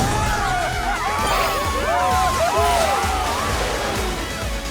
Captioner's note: cheering